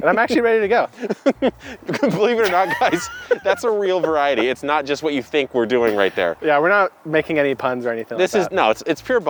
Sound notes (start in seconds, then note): 0.0 laughing